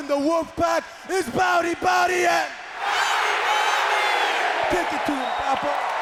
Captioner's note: everyone speaks in a foreign language